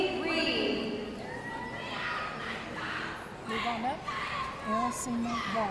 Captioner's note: audience cheering